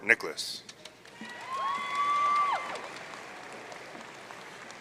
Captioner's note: audience cheering